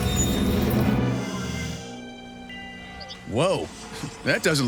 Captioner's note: grinding metal